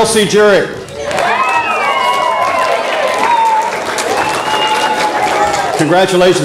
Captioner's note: audience applause